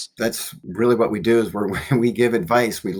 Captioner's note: chuckles